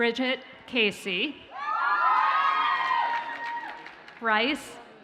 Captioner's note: audience cheers and applauds